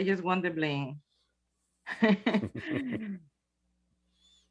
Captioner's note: chuckles